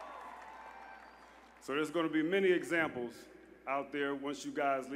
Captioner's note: applause